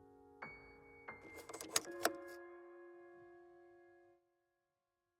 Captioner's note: door clunking